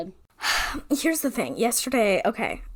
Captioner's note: sighs